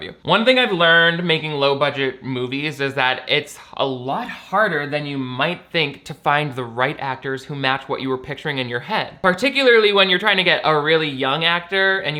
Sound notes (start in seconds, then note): none